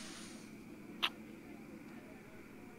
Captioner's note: kiss